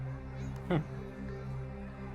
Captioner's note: Sanket scoffs